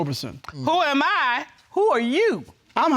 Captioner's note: judge dana reading